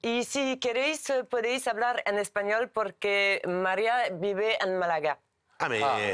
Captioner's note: Spanish spoken audio